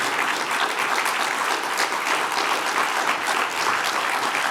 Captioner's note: attendees applauding